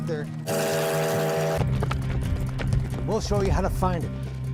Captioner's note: train whistling